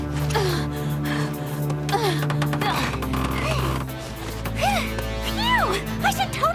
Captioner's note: panting